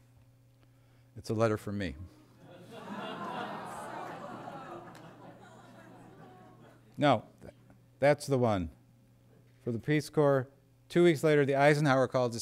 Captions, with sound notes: It's a letter from me. [Laughter] >> Wow. >> No, that's the one for the Peace Corps, 2 weeks later the Eisenhower called